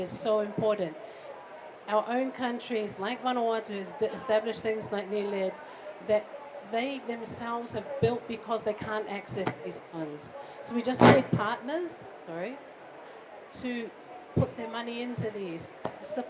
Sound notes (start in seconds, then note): 10.9 mic feedback